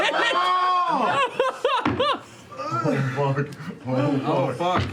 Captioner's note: laughter and gasping